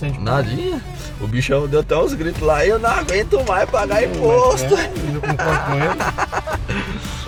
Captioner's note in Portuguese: risadas